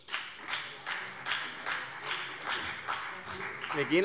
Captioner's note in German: Beifall BÜNDNIS 90/DIE GRÜNEN und vereinzelt CDU